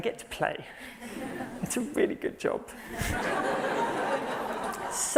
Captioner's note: laughter